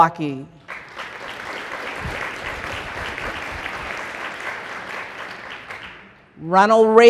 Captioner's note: applause